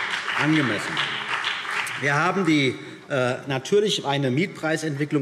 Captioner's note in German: Beifall CDU und BÜNDNIS 90/DIE GRÜNEN